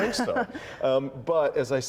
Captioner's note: laughter